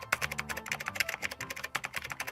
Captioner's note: keyboard clicking